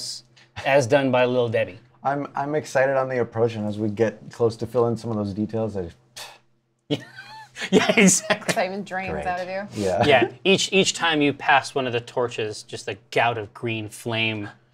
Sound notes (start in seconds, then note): 6.1 scoffs; 6.9 laughs